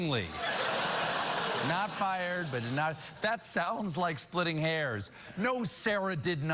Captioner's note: laughter